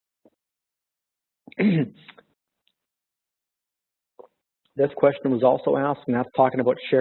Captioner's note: pause